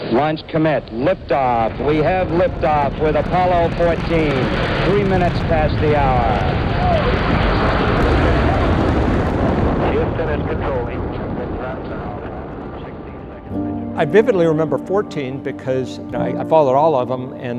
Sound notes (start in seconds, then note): 6.8 rocket ship roaring